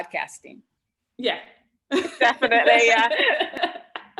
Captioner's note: laughs